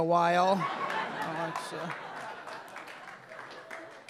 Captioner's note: audience laughing